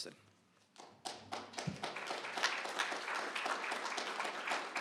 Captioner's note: applause